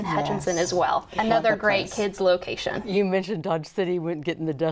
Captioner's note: none